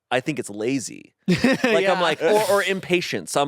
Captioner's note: laughs